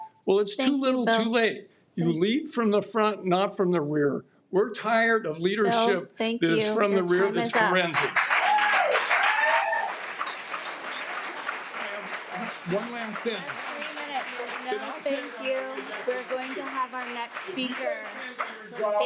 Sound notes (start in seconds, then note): 8.2 audience cheers and applauds